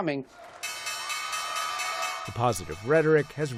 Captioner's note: bell ringing